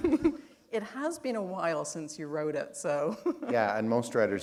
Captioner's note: chuckle